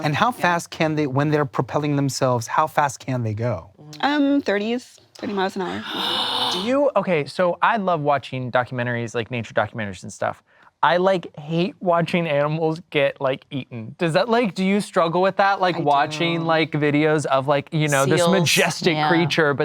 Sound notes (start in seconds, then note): 5.3 gasps